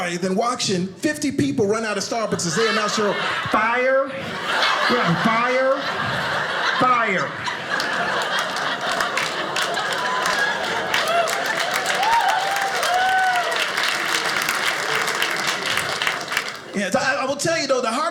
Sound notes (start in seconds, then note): 7.7 audience laughing; 10.7 audience applauding